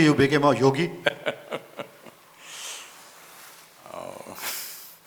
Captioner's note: Sadhguru laughs